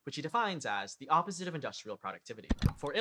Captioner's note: click